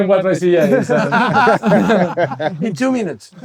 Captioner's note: laughing